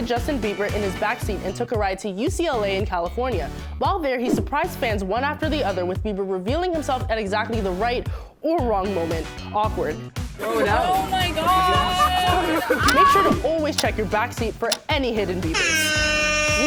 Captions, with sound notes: David Dobrik his Justin Bieber in his backseat and took a ride to UCLA in California. While there he surprised fans one after the other with Bieber revealing himself at exactly the right or wrong moment. Awkward. Oh, my God! [laughter] You should always check your backseat for any hidden Bieber.